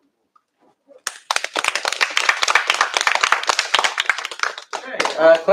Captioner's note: applause